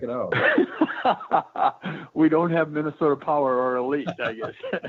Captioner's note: chuckling